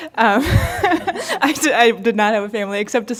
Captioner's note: laughter